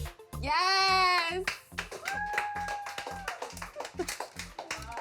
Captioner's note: crew clapping and cheering